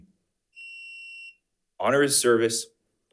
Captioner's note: timer beeps